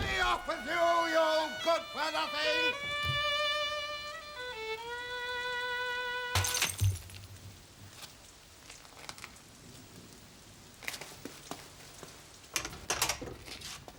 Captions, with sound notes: BE OFF WITH YOU! U GOOD FOR NOTHIN! [crashing]